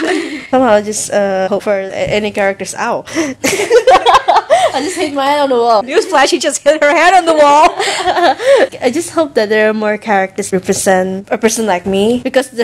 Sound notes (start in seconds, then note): 7.5 laughing intensifies